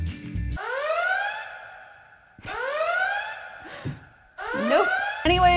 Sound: Star Trek TNG Red Alert siren plays

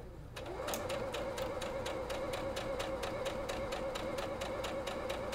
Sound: sewing machine humming

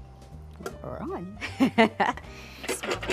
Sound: laughs

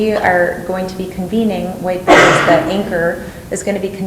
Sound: cough drowns out speaker

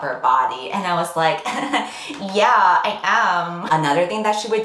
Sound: giggles

